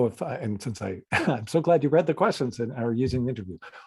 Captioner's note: chuckles